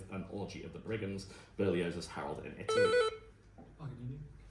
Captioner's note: buzz